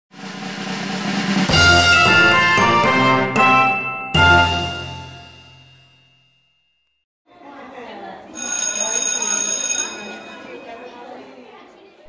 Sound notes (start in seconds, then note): 1.4 upbeat music; 8.3 bell ringing over children chattering